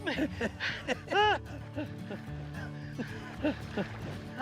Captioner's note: laughs